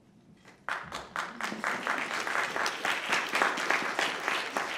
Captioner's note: audience applauding